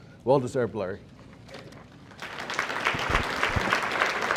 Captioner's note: audience applauding